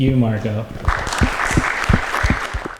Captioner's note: applause